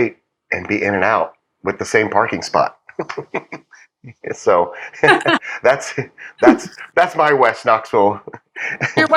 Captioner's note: laugh